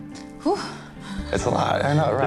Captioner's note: lets out a deep breath